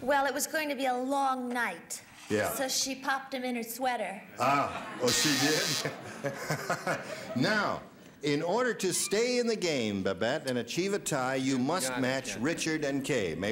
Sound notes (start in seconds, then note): 5.0 buzzer sounds